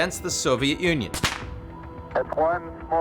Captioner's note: confetti popping